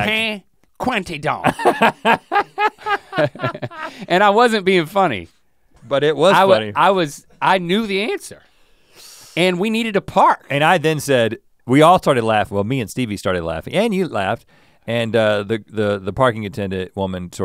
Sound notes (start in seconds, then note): 1.4 Rhett laughs; 4.5 chuckles